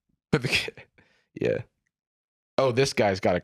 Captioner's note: chuckles